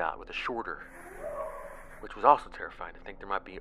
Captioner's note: animal sound